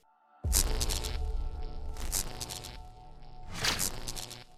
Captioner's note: lightning crackling